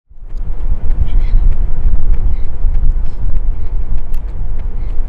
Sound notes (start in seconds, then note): 0.1 footsteps running; 0.8 breathing